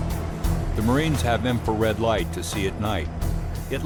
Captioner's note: voiceover